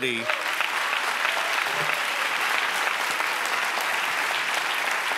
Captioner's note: audience applauds